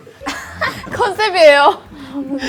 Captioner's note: confident